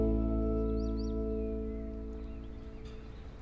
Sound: birds chirping

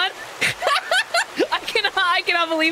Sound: laughter

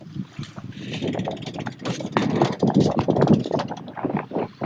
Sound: ratcheting

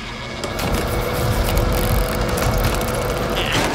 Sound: rattling

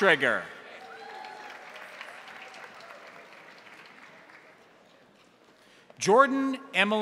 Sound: crowd applauding; crowd cheering

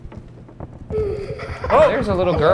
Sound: child laughing

